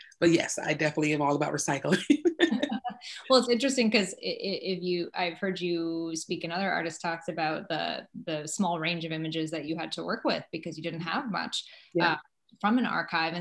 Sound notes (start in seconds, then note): 2.1 laugh